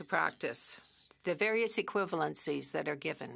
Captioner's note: speaking French